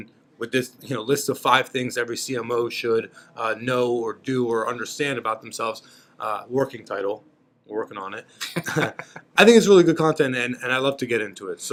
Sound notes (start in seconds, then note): 8.5 laughing